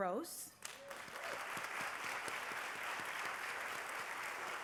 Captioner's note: applause